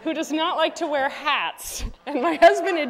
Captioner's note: laughter